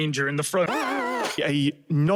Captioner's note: unholy screams of the pink thing